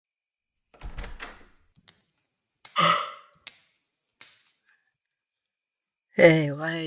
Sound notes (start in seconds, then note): 0.7 door opens, barefoot footsteps; 2.7 yawn